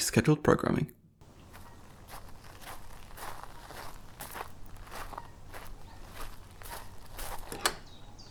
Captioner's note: gravel footsteps; door opens